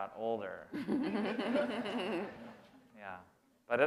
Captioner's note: laughter